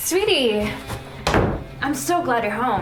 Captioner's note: door Shuts